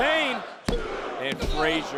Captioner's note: hand pounding